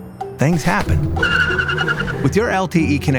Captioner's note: tires screeching sound